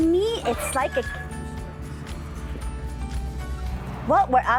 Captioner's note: door creaks